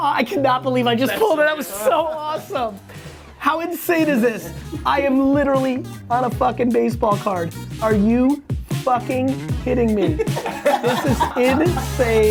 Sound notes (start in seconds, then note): 10.0 laughing